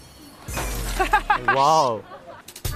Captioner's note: crack, shattered